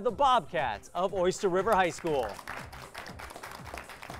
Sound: applause

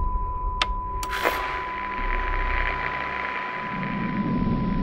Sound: sound frequency humming becomes present; radio turns on and tunes

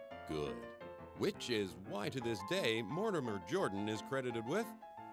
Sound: voiceover

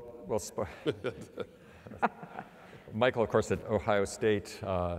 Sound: laugh

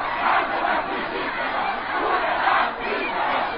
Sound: protesters shouting

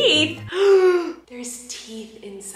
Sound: gasps

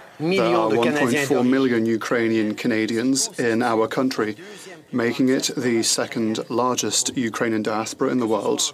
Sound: speaking French

